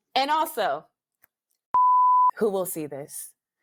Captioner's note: beep